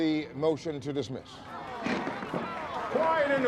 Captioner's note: applause